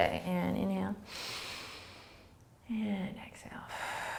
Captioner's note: inhaling; exhaling